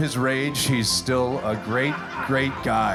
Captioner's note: guests laughing